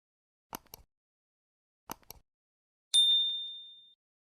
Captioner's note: bell dings